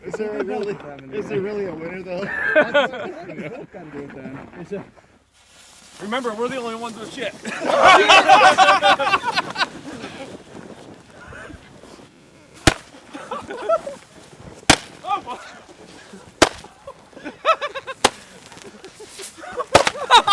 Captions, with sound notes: - Is there really a winner, though? - Remember, we're the only ones with shit. (group laughing) (Roman candles popping)